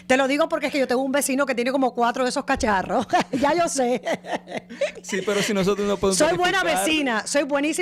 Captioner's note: laughter